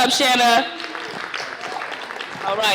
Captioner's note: applause